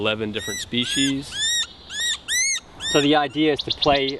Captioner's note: bird making noise